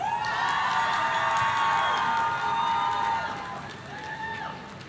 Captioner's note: audience cheering